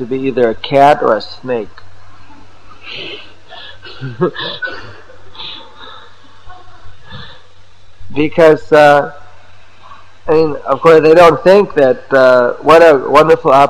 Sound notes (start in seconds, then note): 3.6 laughter